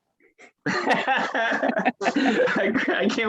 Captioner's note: laughs